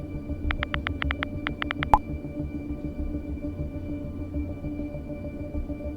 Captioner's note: typing sound